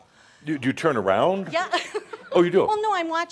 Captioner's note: she giggles